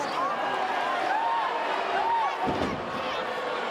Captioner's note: crowd cheering